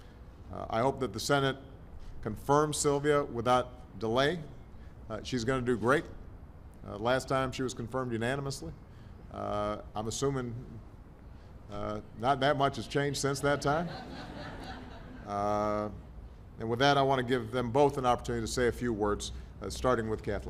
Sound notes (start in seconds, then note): 13.4 laughter